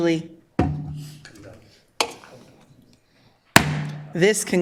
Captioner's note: gavel strike